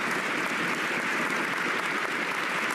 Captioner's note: cheers and applause